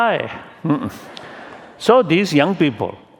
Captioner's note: laughter